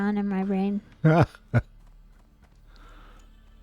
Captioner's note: laughter